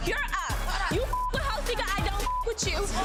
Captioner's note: beep